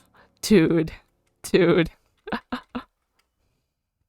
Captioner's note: laughs